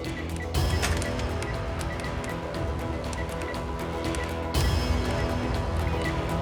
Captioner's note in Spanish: bip al marcar números